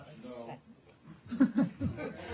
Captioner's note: laughter